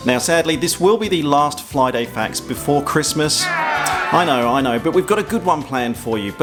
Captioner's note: boo